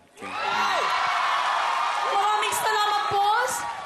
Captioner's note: crowd cheering